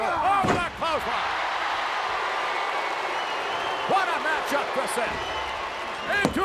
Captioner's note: applause